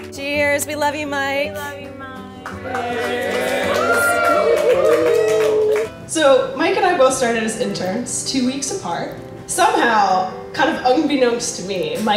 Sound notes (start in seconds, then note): 2.4 crowd cheering and clapping